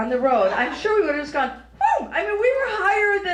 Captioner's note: high pitched volley